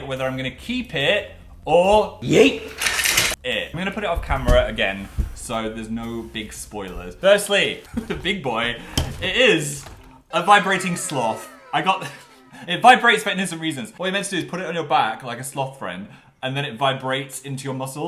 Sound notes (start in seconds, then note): 7.8 laughs; 10.4 woah sound; 10.4 laughs